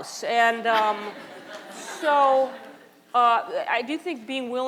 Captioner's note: audience laughter